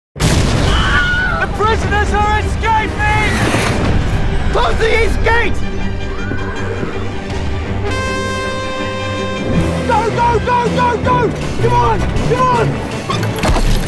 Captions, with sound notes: (loud explosion and screaming) - The prisoners are escaping! - Close the east gate! (horn blowing) - Go, go, go, go, come on, come on!